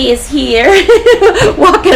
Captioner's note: laughs